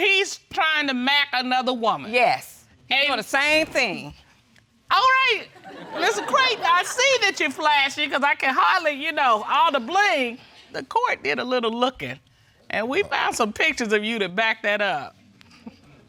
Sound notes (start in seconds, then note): 5.6 audience laugh